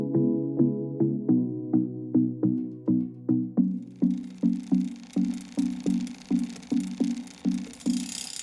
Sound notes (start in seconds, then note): 3.8 bike tire spinning